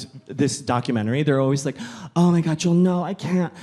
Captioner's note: gasps